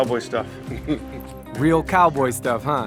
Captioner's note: Baratunde laughs